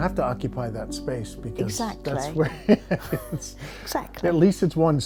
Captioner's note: laughs